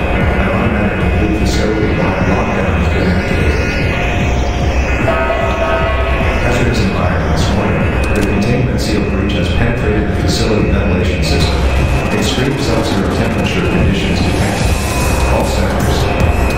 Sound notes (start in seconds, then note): 5.0 announcement Chime